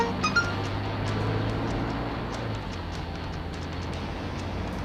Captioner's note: text alert chimes